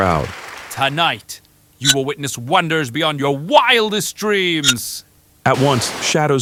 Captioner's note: glitch